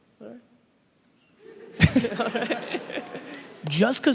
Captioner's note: laughing